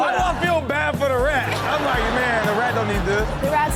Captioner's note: audience laughs